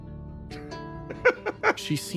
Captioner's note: laugh